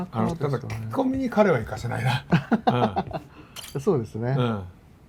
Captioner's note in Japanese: 笑い